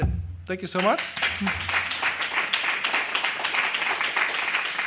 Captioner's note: applause